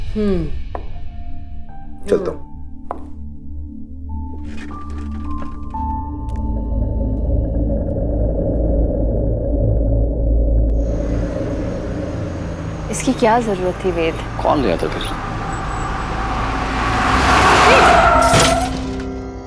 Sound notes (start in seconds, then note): 10.9 Car approaching; 18.2 Car glasses shattering